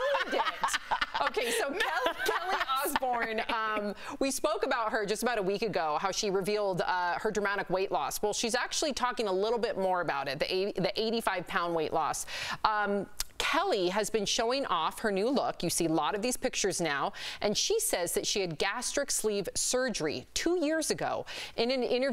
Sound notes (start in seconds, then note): 4.2 laughter